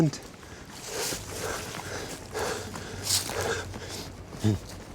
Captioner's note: heavy breathing